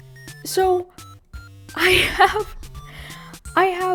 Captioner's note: laughs